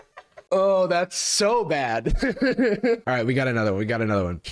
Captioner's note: laughs hysterically; laughs